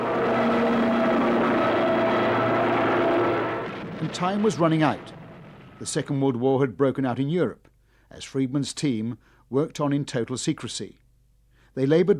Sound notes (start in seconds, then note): 0.0 planes roar; 3.9 bombs explode